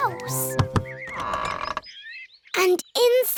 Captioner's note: door creaks